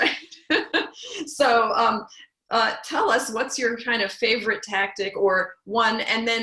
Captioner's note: laugh